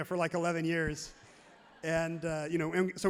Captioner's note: crowd laughs happily